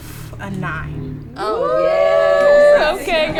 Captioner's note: cheering